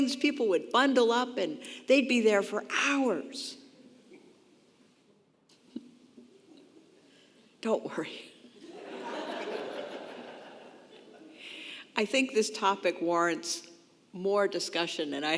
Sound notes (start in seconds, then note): 6.0 chuckles; 8.5 congregation laughing